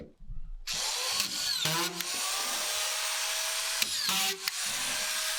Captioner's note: machine whirring